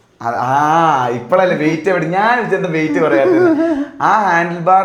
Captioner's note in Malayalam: പൊട്ടിച്ചിരി